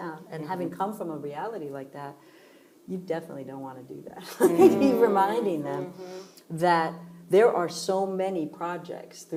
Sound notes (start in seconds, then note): 4.3 laughing